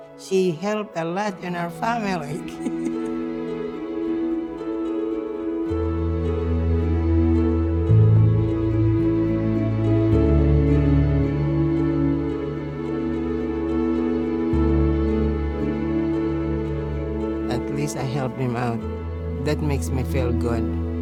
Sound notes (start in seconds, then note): 2.2 laughs; 5.0 contemplative instrumental music